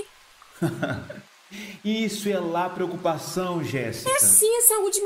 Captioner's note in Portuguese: FERNANDO - Rindo sarcasticamente